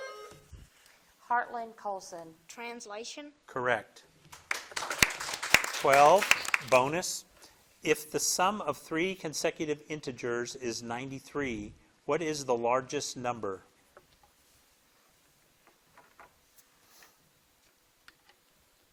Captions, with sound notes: (buzzer dings) - Heartland Colson. - Translation. - Correct. (crowd claps) 12 bonus. If the sum of three consecutive integers is 93, what is the largest number?